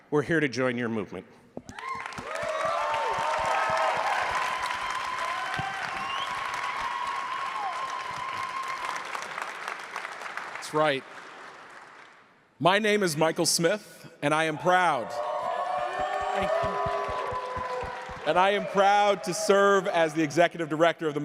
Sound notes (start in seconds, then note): 2.1 crowd cheering; 14.6 crowd cheering